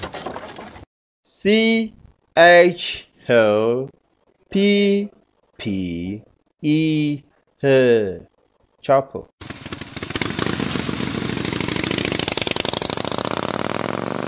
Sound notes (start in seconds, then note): 9.4 chopper Sound